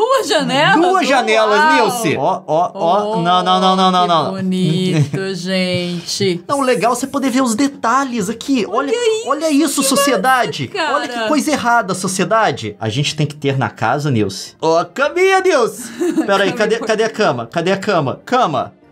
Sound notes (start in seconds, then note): 2.0 more laughing; 15.8 laughing